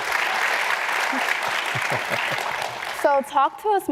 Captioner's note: applause